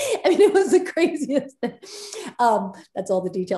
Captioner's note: Soledad laughs